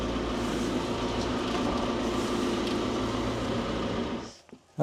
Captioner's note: engine humming continues